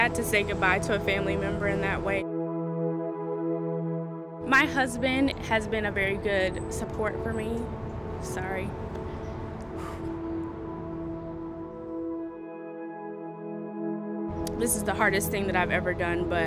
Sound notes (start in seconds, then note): 9.7 exhaling; 11.8 gentle music